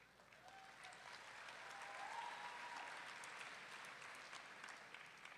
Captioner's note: audience clapping and whooping